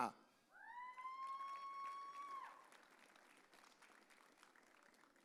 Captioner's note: audience cheering